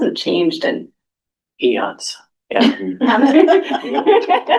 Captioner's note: laughter